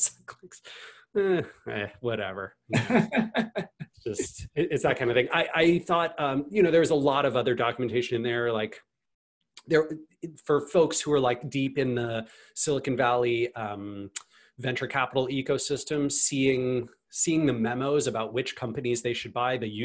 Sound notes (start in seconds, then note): 2.7 laughs softly; 2.7 laughs